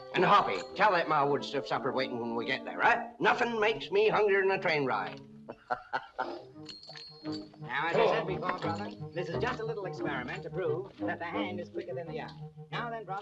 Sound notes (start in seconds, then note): 5.4 laughs